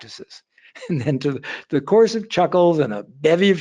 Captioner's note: laughing